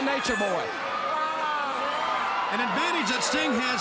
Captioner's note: Ric exclaiming